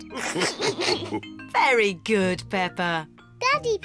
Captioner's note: all laugh